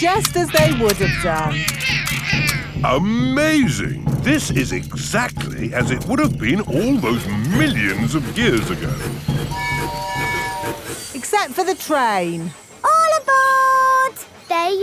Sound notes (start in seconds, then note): 9.4 train tooting